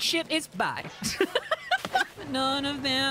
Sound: laughter

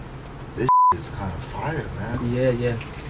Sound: beep

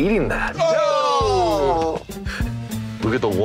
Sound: groans in disgust

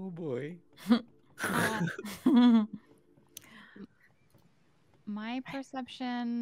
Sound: players chuckle nervously

